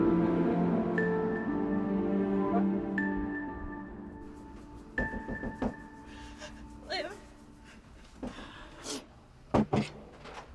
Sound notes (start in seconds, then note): 5.0 door knocking